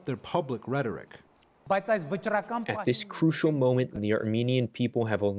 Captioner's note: through translator